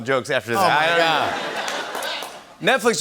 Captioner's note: laughter